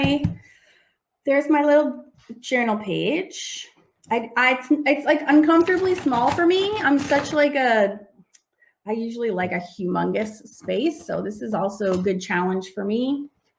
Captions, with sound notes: There's my little journal page. It's uncomfortably small for me. (rummaging) I usually like a humongous space, so this is also a good challenge for me.